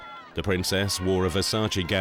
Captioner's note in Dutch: publiek juicht